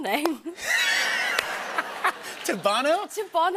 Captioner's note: laughter